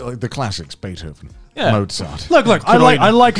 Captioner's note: murmurs